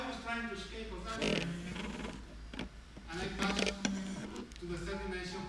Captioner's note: phone buzzing